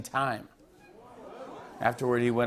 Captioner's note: audience oohs